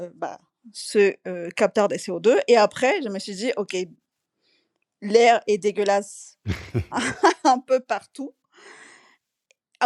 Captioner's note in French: rires